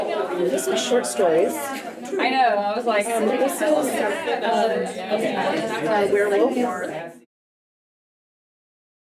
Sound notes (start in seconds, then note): 0.0 Audience chattering and playing Uno; 2.1 Audience chattering and playing Uno